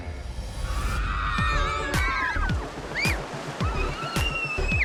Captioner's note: girls squealing excitedly